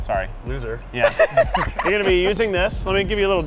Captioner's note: laughing